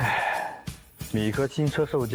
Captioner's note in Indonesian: Menghela napas